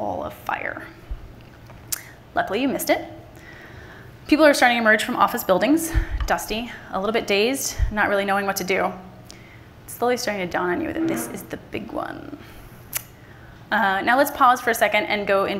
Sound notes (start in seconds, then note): none